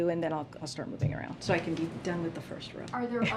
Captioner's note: laughs